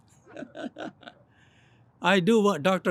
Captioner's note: laughs